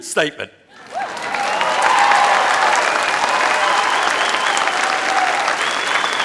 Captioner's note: applause